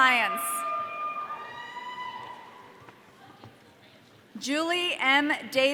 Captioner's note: audience cheering